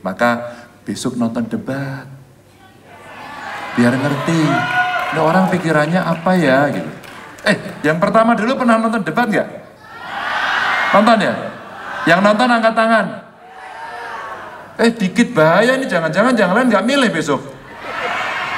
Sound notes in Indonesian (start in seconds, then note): 4.0 tepuk tangan